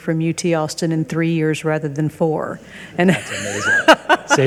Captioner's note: laughs